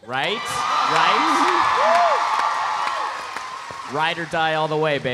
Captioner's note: audience cheering; audience applauding